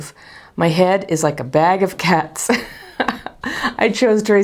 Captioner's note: chuckles